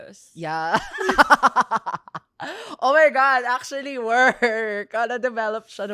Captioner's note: laughs